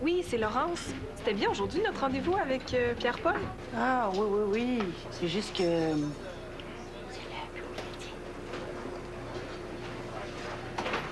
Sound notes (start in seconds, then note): 7.1 chuchote